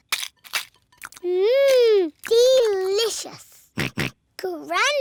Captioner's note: george oinks